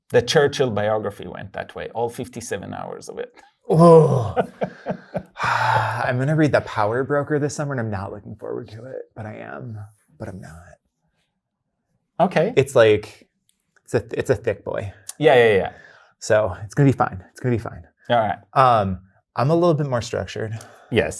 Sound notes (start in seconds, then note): 3.7 guy laughing; 3.7 sighs